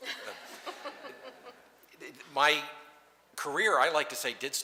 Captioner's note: laughter